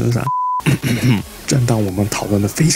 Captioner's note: cough cough